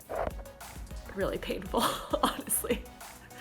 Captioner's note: chuckles